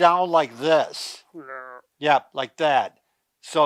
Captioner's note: groans